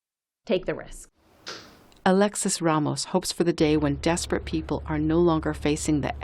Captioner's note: voice-over